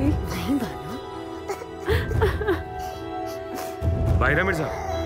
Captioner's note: Crying